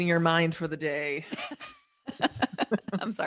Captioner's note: both laugh